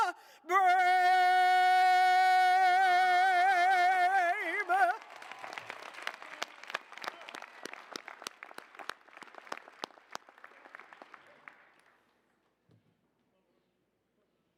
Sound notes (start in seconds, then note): 4.1 applause, cheers